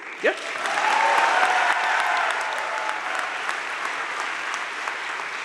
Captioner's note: audience cheering and applauding